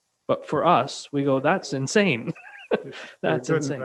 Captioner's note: chuckles